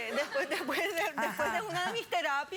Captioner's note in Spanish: risas